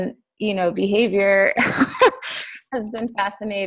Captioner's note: laughs